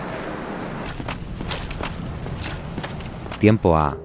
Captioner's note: armor parts clacking together